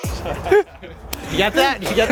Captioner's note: all laughing; upbeat music